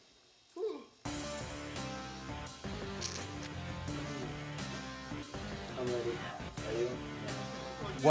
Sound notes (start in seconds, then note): 0.9 gasps